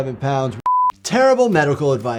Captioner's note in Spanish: pitidos